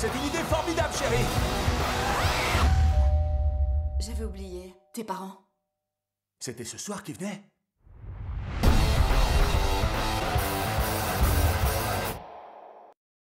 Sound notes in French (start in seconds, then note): 2.6 sonnette